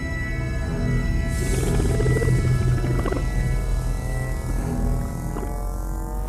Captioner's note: capsules gurgle and buzz